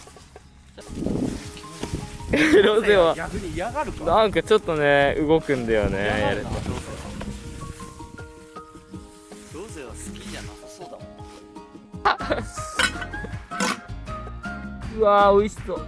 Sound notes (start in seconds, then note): 9.3 laughs